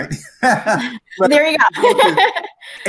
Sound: laughs

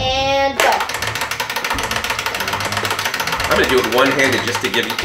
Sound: timer ticking

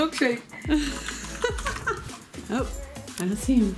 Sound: laughs

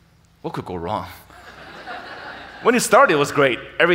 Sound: audience laughing

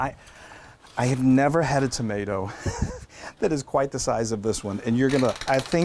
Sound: laugh

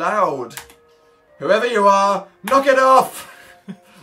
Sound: both snigger

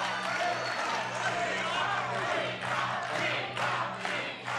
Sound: crowd chants

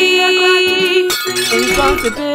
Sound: cup shatters

